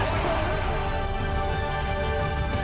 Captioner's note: audience cheers